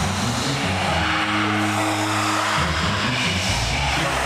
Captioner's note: creatures scream